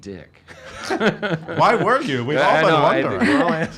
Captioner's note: laughs